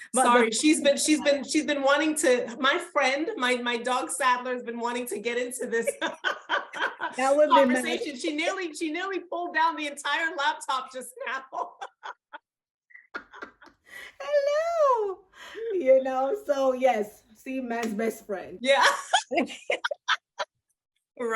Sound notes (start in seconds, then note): 0.0 both laugh; 5.6 laughs; 11.2 both laugh; 18.7 laughs